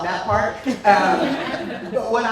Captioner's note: laughter